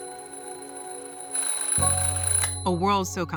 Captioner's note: alarm clock ringing; ringing stops